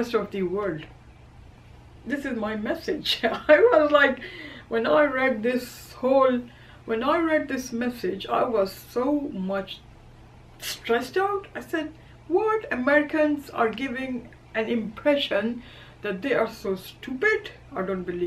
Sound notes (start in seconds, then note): 3.2 laugh